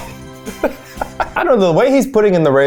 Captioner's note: laughs